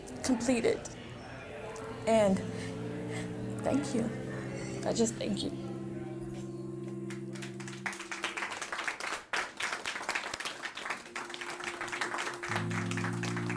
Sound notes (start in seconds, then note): 6.9 crowd applauding; 7.5 soft music